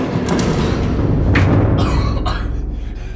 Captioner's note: coughing